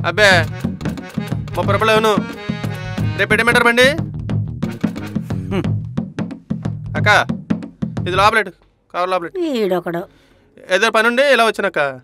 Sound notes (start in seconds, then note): 5.2 scoffs